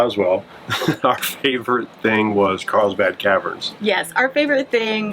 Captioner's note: laughs